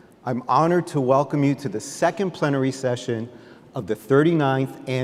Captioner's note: none